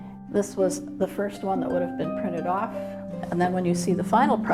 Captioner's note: none